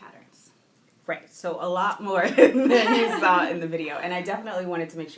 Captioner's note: laughing